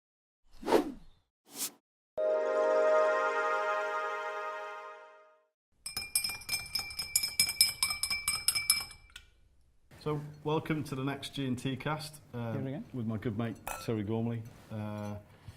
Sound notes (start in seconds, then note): 5.9 ice clinks as it is stirred in a glass